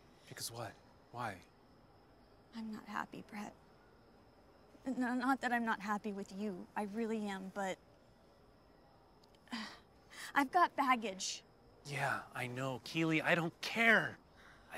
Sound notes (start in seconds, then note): 9.5 sighs